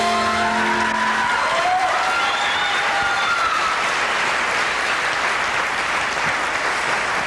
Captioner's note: applause